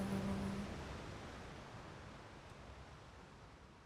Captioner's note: waves crash